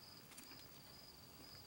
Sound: loud cruncnghi

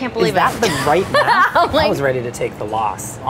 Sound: laughs

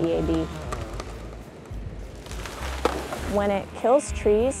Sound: chainsaw, tree falling

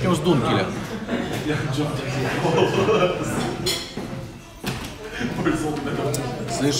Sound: din and clink of dishes

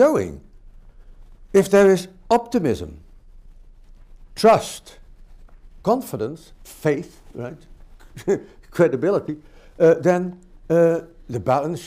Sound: chuckles

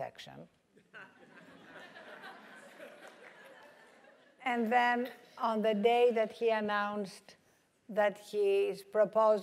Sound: laugh

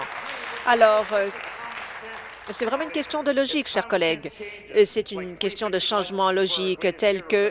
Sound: applause

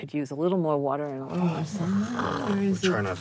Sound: grumbles

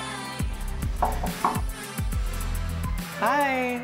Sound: knocking

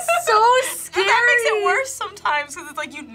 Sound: laughs

